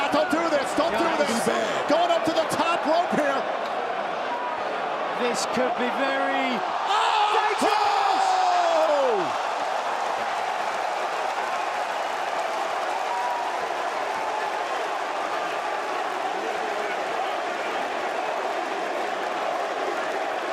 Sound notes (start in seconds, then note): 8.7 crowd cheering